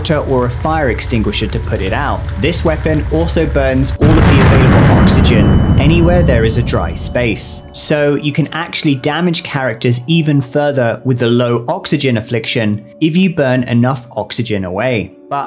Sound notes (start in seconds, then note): 4.0 fire buzzes and blasts